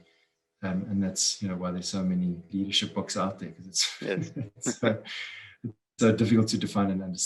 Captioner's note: laugh